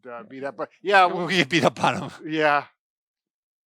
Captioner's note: laughing